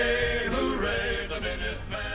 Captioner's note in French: chant